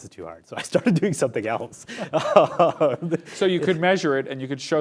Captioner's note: laughs